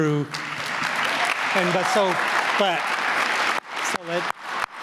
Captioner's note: applause